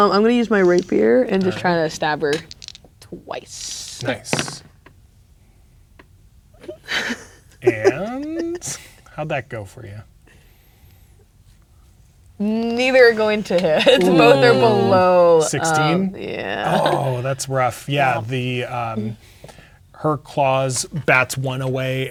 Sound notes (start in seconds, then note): 3.8 dice rolling; 6.6 laughing